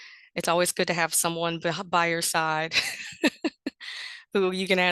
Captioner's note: laughs